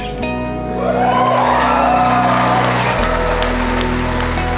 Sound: guests cheers

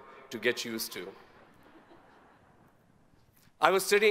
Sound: audience chuckles

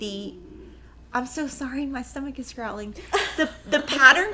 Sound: laughing

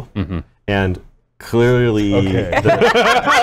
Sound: laughter

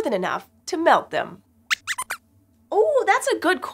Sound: squeaks squeaks

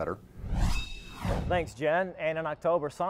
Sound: metal swooshing

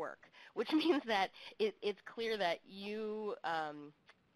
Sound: chuckles

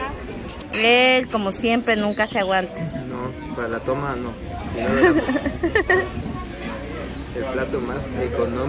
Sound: laughs

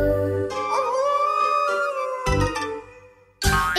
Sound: arooooooo!

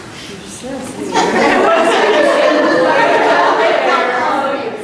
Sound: group laughing

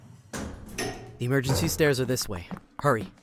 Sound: service elevator door closes; service elevator button clicks

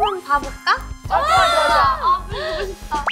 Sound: yes~!! shrieks

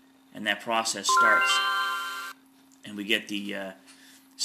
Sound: chime sounds

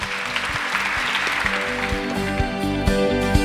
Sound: audience applauding; upbeat music

